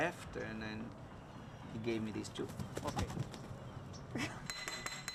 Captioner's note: laughs